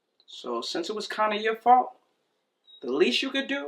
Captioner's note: none